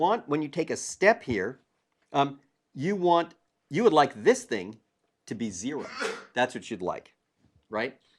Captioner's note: cough